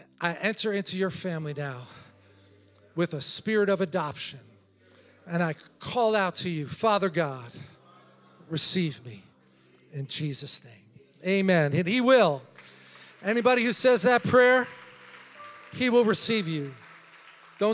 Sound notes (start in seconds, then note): 8.4 congregation chattering; 12.1 congregation applauding